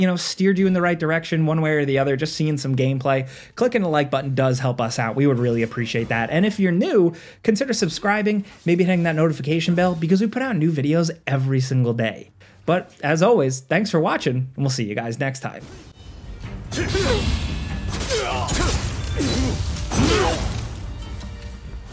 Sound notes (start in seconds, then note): 16.0 intense orchestral music; 16.2 swords clash; 16.7 both yell